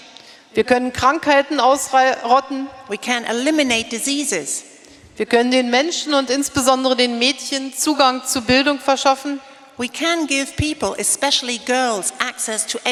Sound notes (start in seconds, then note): 0.3 speaking in German; 5.5 speaking in German